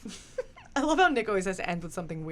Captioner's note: laughs